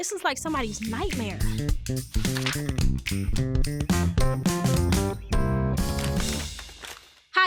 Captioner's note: jazzy upbeat music; pages whooshing